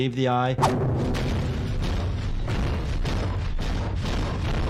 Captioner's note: fist thumps